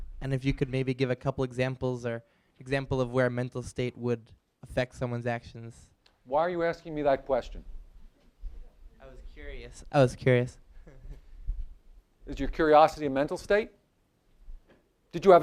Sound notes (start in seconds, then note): 10.8 laughs